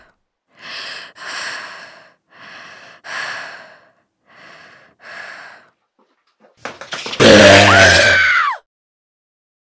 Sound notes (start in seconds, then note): 0.4 female breathing heavily; 7.1 scurrying sound with sinister growl; 7.4 female screaming